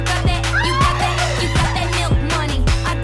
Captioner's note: scream laugh